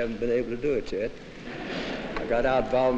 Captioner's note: laughter